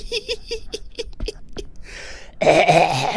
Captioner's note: laughing